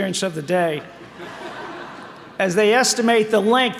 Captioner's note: audience laughing